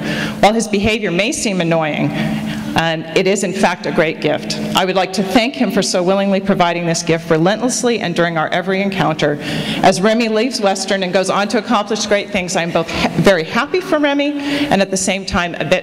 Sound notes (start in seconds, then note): none